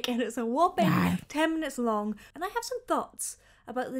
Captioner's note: monster exclaims